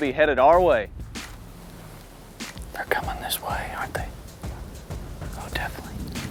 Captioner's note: whispering